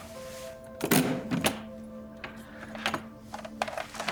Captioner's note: case clicking